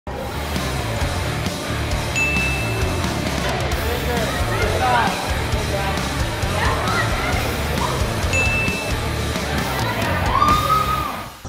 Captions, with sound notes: [upbeat music] [ding] [upbeat music] Pick a side, there you go. [ding] [upbeat music]